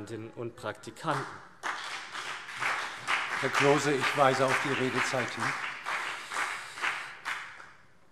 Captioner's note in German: Beifall CDU und BÜNDNIS 90/DIE GRÜNEN